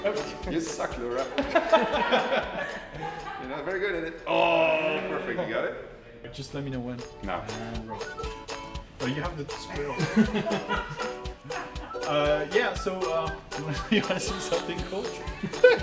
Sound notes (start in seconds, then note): 1.3 laughter; 9.9 laughter